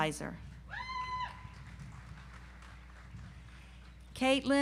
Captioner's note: audience applauds